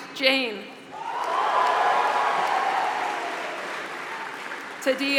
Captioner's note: applause